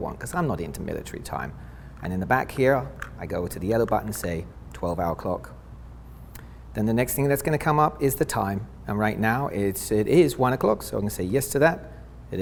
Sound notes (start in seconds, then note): 4.8 beep